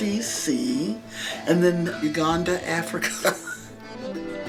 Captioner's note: laughs; upbeat accordion music